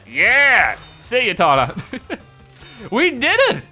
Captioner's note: laughing